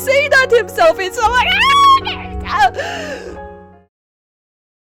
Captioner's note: wails